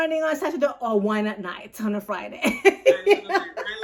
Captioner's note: laughs